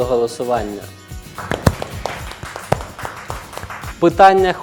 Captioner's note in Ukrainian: оплески